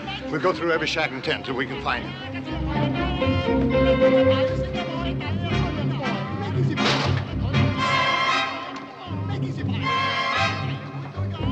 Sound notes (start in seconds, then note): 6.5 men speaking Chinese